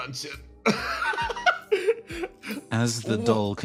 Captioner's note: laugh